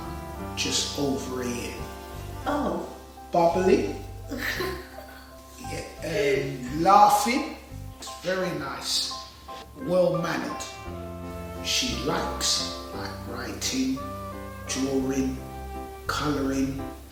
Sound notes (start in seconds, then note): 4.3 giggles